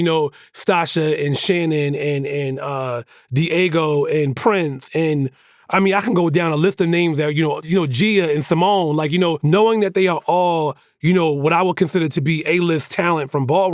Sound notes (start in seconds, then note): none